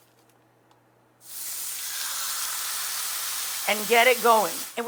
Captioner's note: meat sizzling